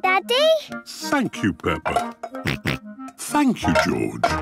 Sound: snorts

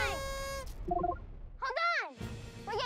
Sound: beeps

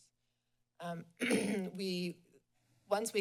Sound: clears throat

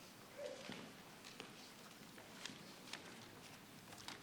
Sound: none

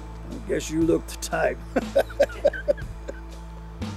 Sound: laughs

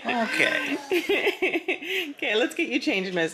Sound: laughing

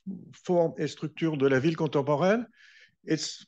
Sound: speaking french

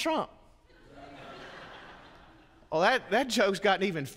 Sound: congregants laugh

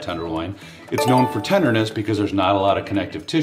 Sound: electronic bell ringing

